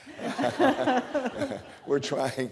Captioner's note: laughter